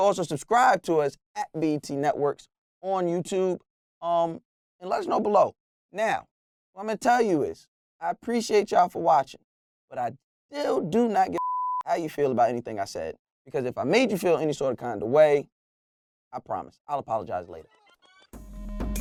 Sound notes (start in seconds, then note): 11.3 beep